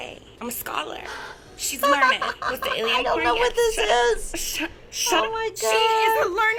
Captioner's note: laughs